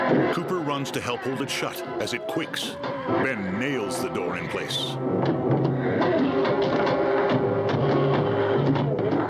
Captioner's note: hammering